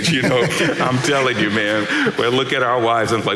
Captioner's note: laughing